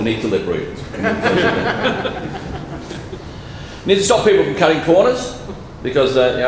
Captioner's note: laughter